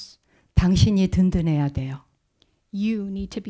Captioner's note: speaking in Korean